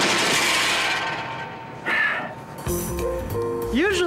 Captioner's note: sighs